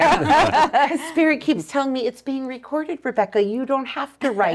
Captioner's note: laughing